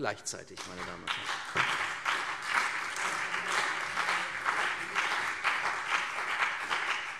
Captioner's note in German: Beifall CDU und BÜNDNIS 90/DIE GRÜNEN